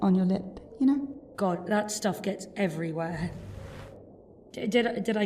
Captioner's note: fabric rustling